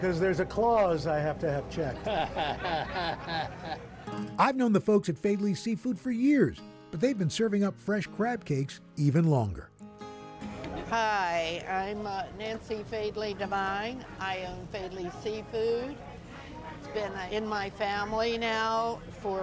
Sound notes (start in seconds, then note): 1.8 chuckles